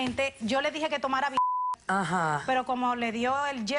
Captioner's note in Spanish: Bip